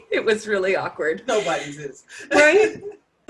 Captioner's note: laughs